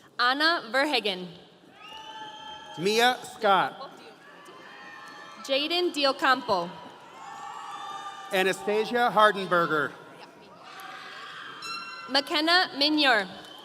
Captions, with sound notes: - Anna Verhagen. (audience cheering) - Mia Scott. - Jayden Deocompo. (audience cheering) - Anastasia Hardenberger. - McKenna Minyer.